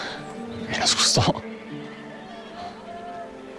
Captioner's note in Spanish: Susurra